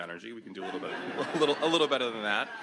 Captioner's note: audience laughs